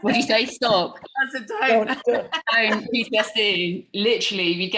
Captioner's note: group speaking together